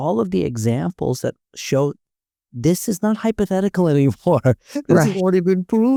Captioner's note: chuckling